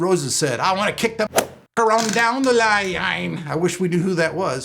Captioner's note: whip cracks